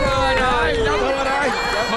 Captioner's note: laughing